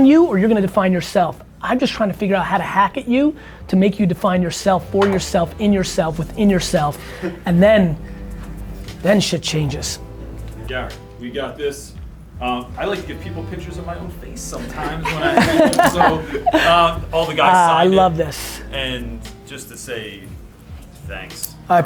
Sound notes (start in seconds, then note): 14.5 group laughter